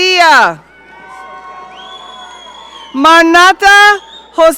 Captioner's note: audience cheering